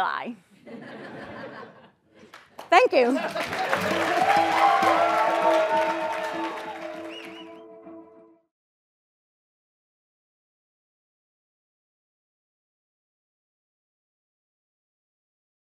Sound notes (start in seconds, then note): 0.6 laugh; 2.2 applause